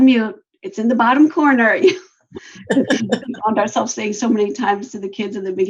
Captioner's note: laughter